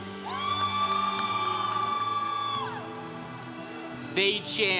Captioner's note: congregation cheering